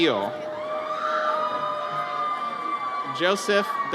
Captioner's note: audience cheers